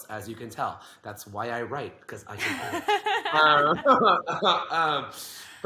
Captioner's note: both laugh